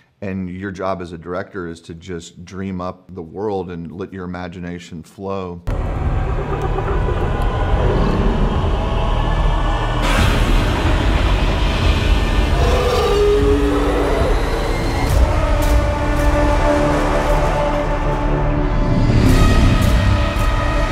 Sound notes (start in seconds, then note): 5.6 soft intense music; 12.5 dinosaur roaring; 17.6 soft intense music